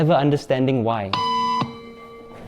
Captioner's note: beep